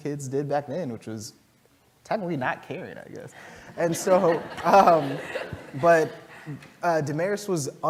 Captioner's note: laugh